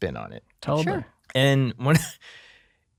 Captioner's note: laughing